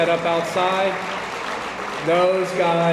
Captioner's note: attendees applauding